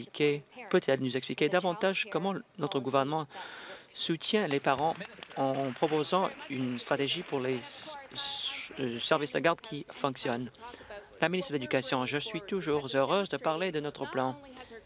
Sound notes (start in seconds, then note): 7.6 applause